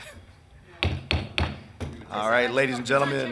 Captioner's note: gavel banging